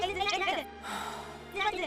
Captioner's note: Miserable sigh from Marie